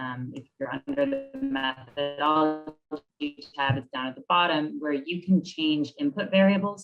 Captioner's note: audio distorts